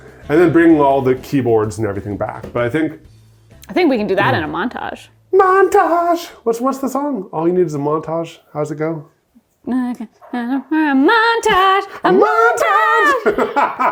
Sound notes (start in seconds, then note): 9.6 hums; 13.6 laughs